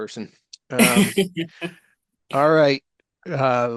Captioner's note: laughs